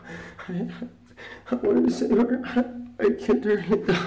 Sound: sobs

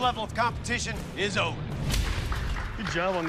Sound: clapping

